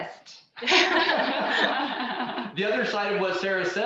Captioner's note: all laughing